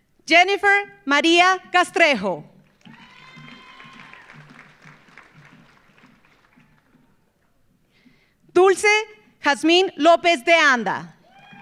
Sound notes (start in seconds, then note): 2.6 audience applauding; 2.8 audience cheering